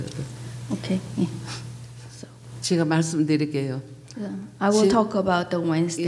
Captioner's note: speaking foreign language